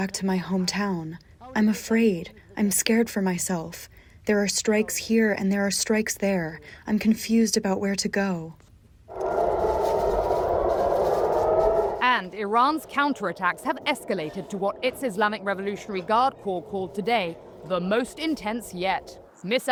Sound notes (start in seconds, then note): 8.9 sirens blaring